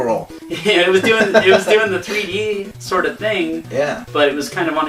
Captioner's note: laughs